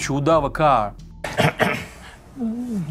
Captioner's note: coughs